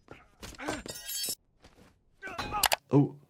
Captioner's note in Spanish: personajes gruñendo